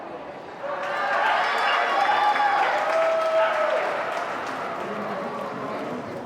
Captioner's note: crowd cheering and clapping